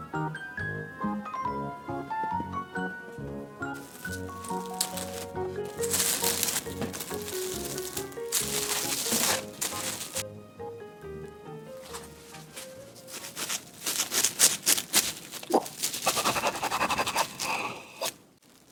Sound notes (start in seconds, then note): 1.9 pat pat